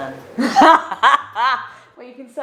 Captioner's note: laugh